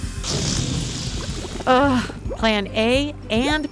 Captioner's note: balloon deflation sound